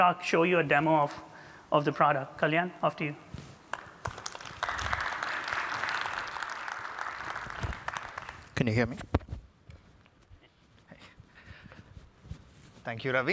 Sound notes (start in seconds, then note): 3.7 applause